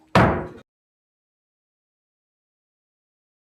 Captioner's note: gavel hit